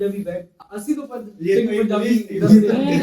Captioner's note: saying in Punjabi